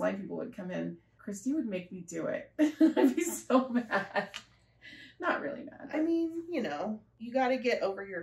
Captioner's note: laughter